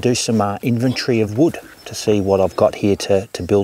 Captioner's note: none